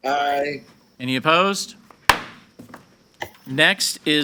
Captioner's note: gavel bangs